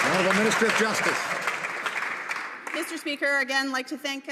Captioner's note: some Applause